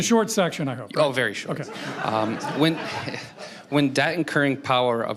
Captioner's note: crowd laughing